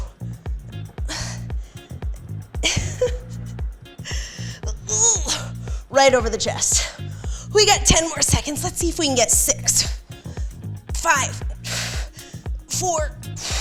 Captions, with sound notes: (chuckles) (grunts) Right over the chest. We got 10 more seconds. Let's see if we can get six. Five, four,